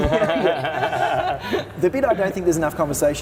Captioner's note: everyone laughing